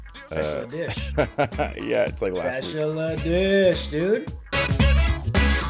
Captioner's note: laugh